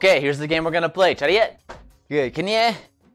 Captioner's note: foreign language